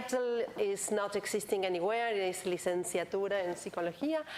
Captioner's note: foreign language